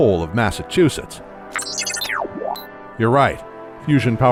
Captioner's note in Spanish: beep inquisitivo